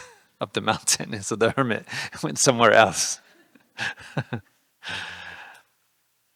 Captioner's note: laughing